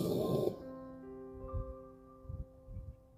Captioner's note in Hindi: नाक से की जाने वाली आवाज़